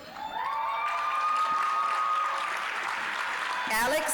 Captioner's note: applause, cheering